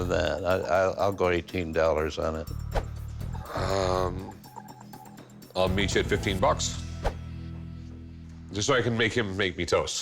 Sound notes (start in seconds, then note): none